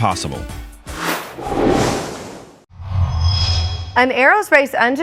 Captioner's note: sound Effects